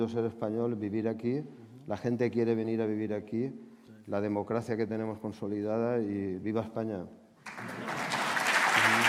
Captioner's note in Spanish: Aplausos